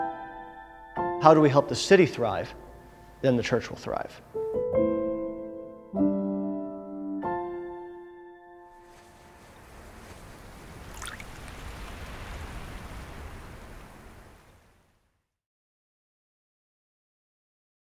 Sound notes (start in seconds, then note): 4.2 piano music finishes; 8.8 sounds of wind blowing and water splashing